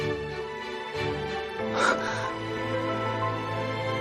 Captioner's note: gasps